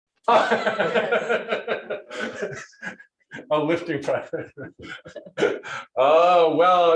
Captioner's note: laughs